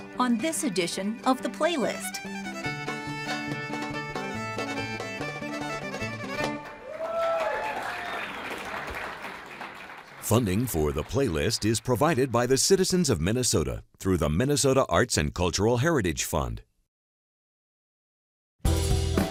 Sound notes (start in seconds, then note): 0.0 playing folk music; 6.6 cheering and applause